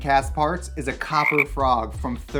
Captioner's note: frog croaking